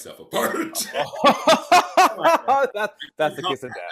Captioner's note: laughing